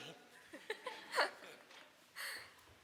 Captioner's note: laughs